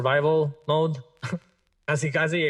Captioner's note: laughs